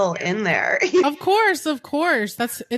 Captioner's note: giggles